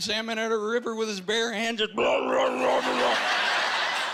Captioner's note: grunting loudly; laughing